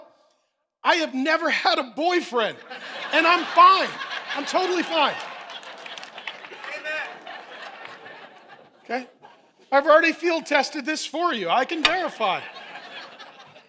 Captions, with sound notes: How do I know I have never had a boyfriend? And I'm fine, I'm totally fine. (congregation laughing) - Amen. - Okay, I've already field tested this for you. I can verify.